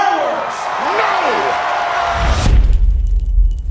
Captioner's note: crowd cheers; upbeat music